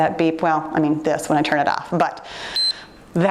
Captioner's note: timer beeps